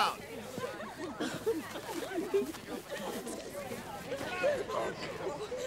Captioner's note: students chattering excitedly